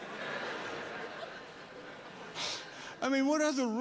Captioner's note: exhales